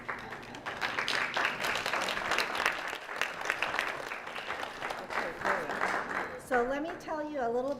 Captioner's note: applause